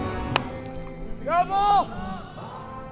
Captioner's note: bat hits ball